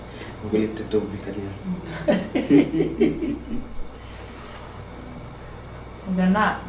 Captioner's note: laughing